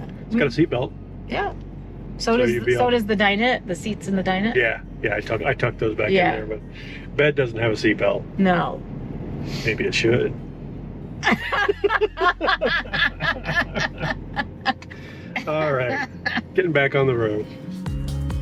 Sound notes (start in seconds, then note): 11.2 pair laughs